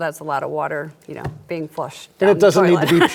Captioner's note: laughs